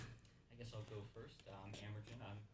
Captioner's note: quietly